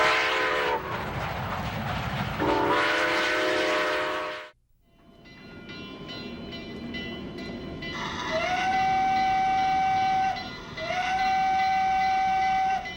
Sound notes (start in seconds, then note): 5.2 bell clanging; 9.7 train whistling